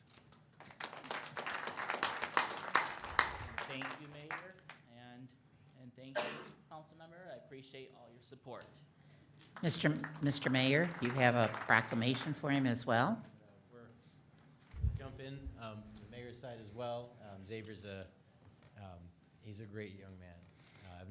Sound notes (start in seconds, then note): 0.6 audience applauds; 9.6 audience applauds